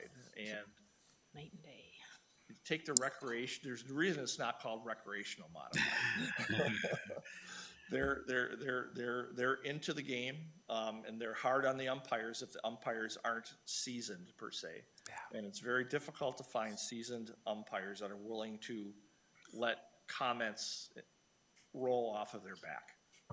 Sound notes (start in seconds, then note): 5.7 people chuckle